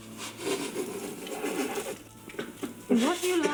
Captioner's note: laughing